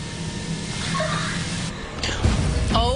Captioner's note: weird ghost girl squeak